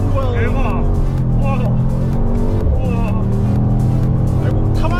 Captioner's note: moaning sounds here and there